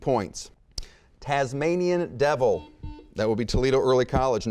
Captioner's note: buzzer beeping